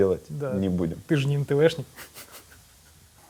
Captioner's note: snickers